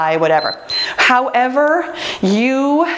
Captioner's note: timer beeps